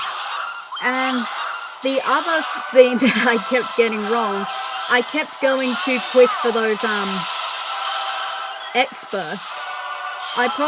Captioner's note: laughter